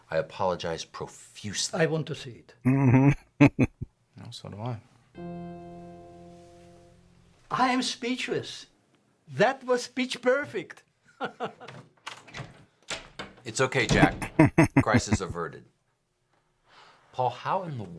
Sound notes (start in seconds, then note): 2.6 chuckling; 13.9 laughing